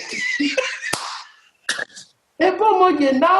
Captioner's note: laughter